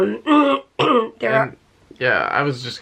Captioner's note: clears throat